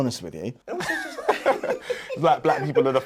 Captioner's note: laughing